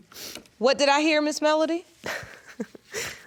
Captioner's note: sniffling; chuckles